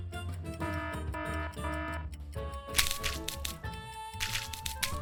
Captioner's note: alarm buzzes; paint splashes